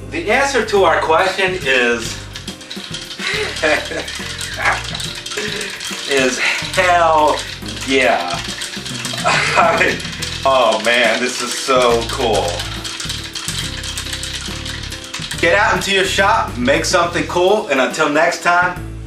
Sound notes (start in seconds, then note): 3.1 giggles; 8.5 laughing